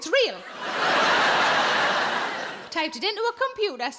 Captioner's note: audience laughing